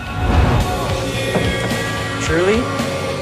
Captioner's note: vacuum running